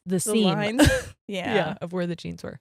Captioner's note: laughs